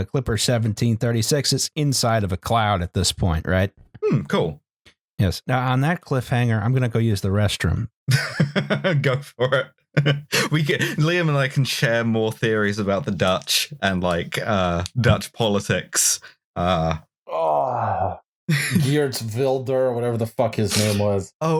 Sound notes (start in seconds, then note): 9.9 laughing